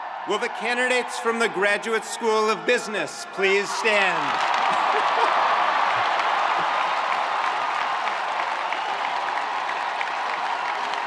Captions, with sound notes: - Will the candidates from the Graduate School of Business please stand? (spectators cheering)